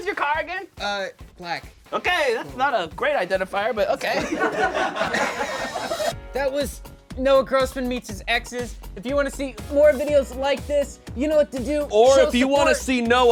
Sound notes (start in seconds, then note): 4.1 all laugh